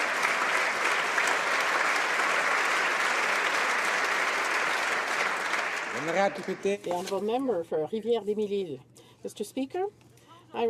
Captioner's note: applause